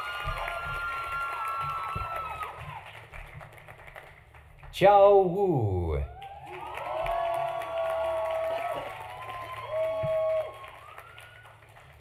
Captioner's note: applause; cheering; applause